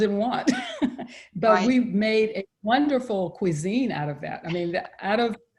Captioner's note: laughs